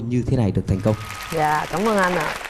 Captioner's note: applause